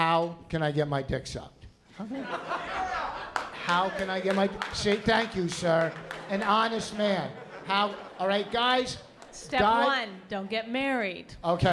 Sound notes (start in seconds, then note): 2.0 laughter